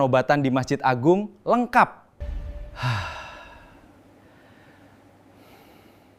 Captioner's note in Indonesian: menghela napas